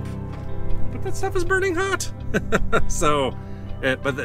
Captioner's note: laughs